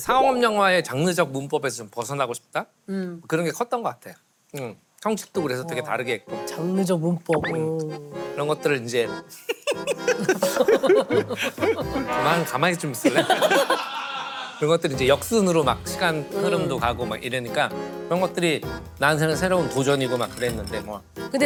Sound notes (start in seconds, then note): 9.2 laughing